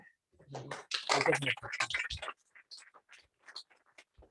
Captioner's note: applause